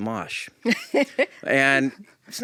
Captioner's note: laughs